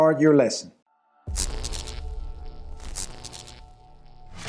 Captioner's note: lighting buzz